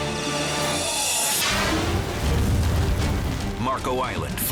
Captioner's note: air whooshes